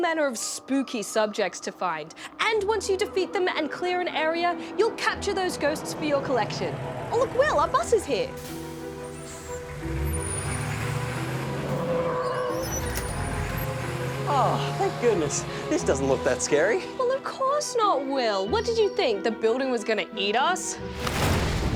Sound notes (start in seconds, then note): 8.3 bus engine roars; 12.5 brakes squeal